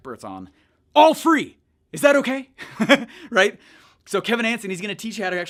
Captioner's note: laughs